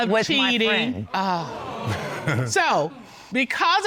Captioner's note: audience exclaiming